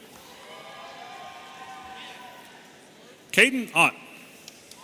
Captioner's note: audience cheering